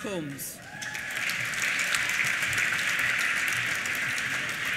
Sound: applause

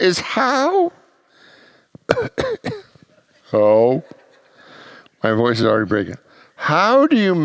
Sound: voice cracks

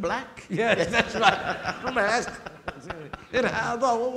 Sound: audience laughing

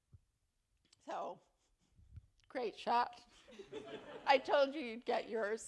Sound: laughter

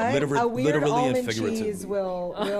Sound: laughter

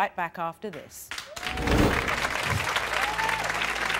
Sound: applause

